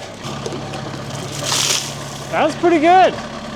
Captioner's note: water splashes